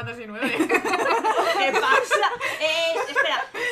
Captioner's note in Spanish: risas